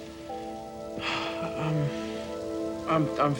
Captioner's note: sighs